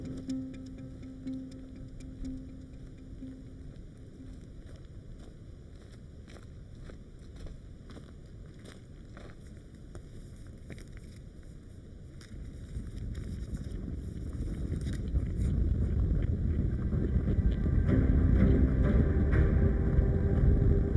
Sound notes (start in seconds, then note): 11.4 ground rumbling; 16.9 dramatic music